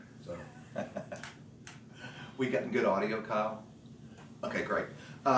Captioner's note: laughs